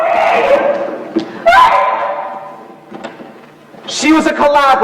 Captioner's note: crying